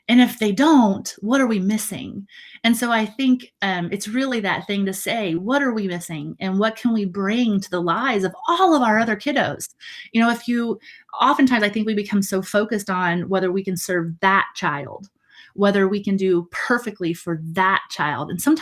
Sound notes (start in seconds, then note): none